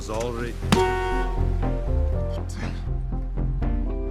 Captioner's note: honks horn